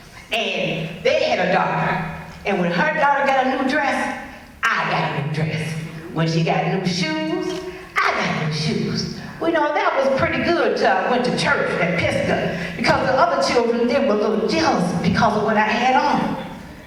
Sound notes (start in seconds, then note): none